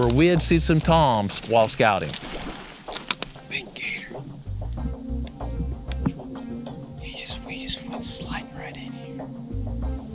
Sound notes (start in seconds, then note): 3.9 whispering